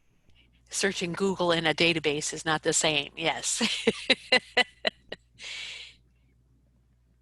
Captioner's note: laughs